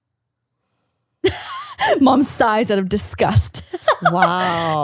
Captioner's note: laughs